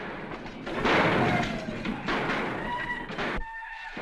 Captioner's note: whooping - gunshots